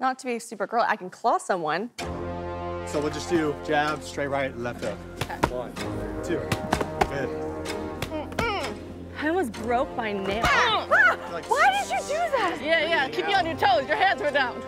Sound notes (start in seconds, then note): 10.8 laughing; 14.4 upbeat music